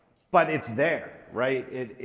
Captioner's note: none